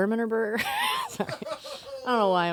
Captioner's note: laughs